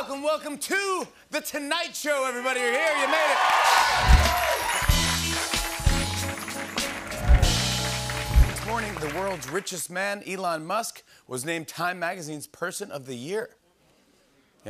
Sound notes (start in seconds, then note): 3.5 cheers and applause